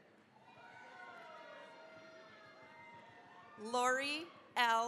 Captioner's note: cheering, applause